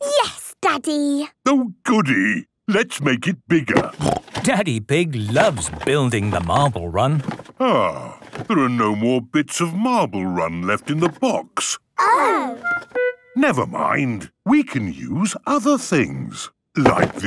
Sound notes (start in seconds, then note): 3.9 snorting